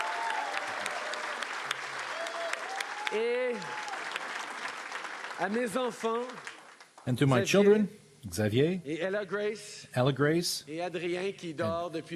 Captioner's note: cheering and Applause